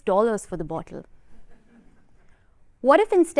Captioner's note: laughter